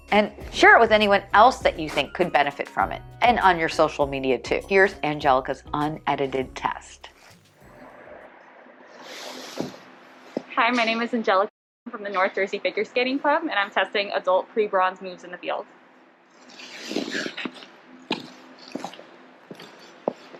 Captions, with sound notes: and share it with anyone else that you think could benefit from it. And on your social media too. Here's Angelica's unedited test. Hi, my name is Angelica from the North Jersey Figure Club and I'm testing Adult Pre-Bronze Moves in the Field. [Rink noises].